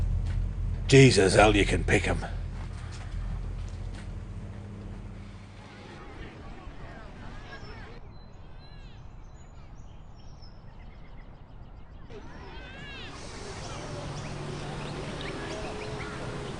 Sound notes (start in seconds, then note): 6.7 children playing; 8.8 birds twittering